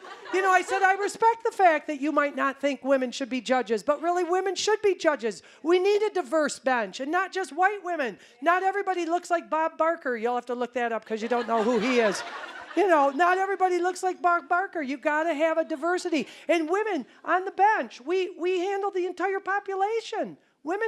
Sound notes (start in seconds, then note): 11.2 audience laughing